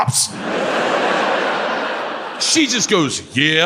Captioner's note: audience laughs